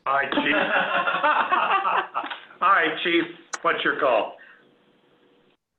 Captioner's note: laughter